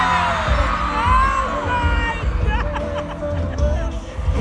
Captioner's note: laughs